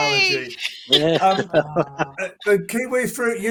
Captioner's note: laughter